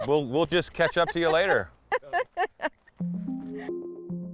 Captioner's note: laughs; uplifting electronic music